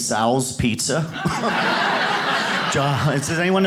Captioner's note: audience laughs